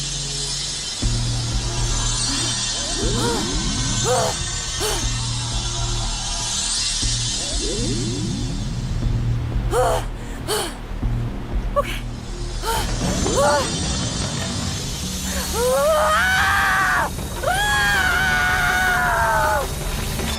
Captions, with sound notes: [grunting] [panting] Okay— [grunting] Arrgh! Graagh!